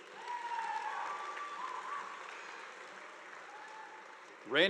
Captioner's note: audience applauding